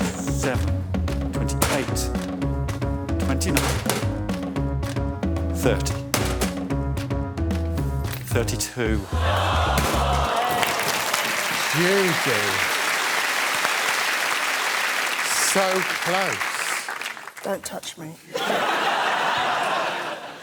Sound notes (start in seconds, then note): 11.8 audience exclaims; 14.0 applause